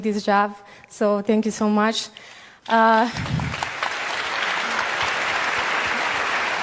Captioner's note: applause